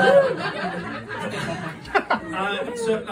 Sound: laughter at the very idea

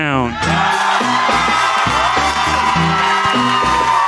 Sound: audience screaming

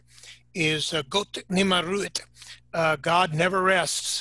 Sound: speaking in foreign language

